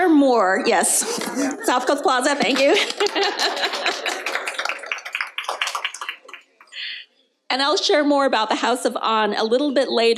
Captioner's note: applause